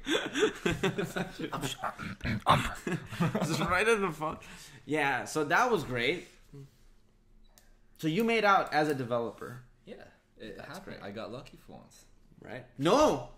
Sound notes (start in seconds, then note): 0.7 whispers